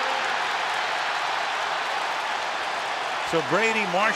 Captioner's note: crowd cheering